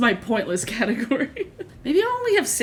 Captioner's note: laughs